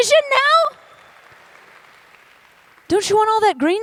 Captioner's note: applause